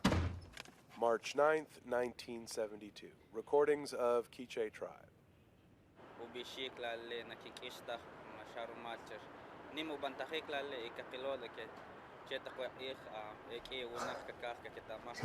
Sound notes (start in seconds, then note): 6.1 tribe member speaking in foreign language; 14.0 Louis chuckles